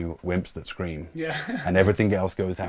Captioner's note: laughs